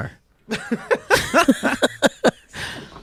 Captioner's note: laughs